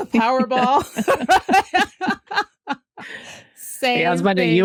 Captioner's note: laughter